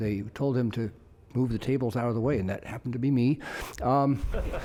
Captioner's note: laughter